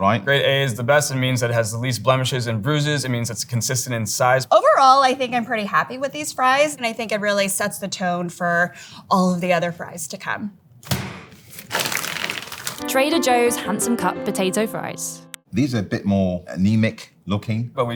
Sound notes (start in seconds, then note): 10.8 fries pack thudding; 11.4 plastic crinkling